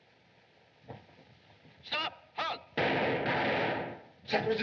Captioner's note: gunshots